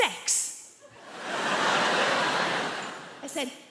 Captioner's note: crowd laughs